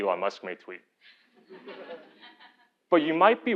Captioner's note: laugh